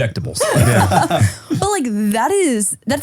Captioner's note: group laughs